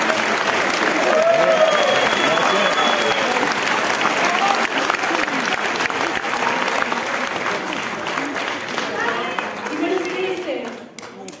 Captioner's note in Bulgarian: аплодисменти